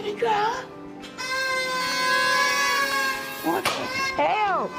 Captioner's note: party blowers sound